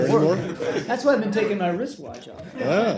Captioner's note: laughter